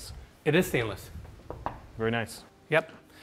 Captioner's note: wall thumping